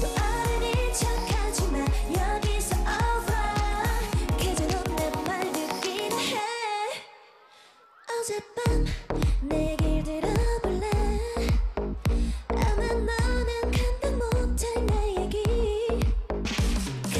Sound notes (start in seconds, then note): 7.0 silent